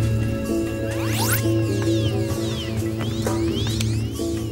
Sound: helmet whirring

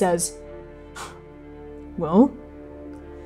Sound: sharply exhaling

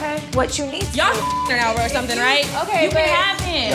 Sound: beep

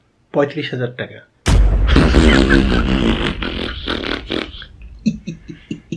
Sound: laughing Out Loud ++

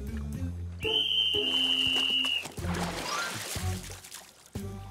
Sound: blowing whistle

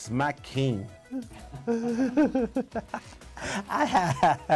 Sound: laughs

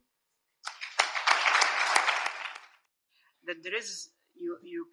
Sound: audience applauds

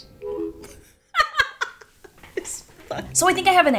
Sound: laughing

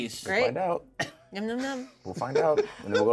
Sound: speaker chuckles; speaker laughs

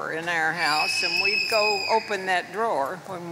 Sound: child screams

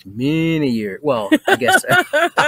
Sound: both laugh

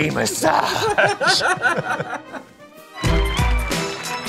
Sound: laughing

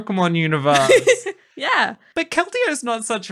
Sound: laughing

